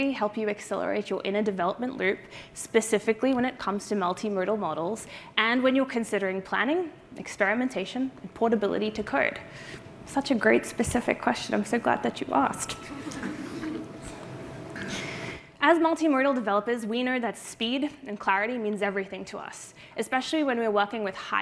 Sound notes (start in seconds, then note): 14.3 laughter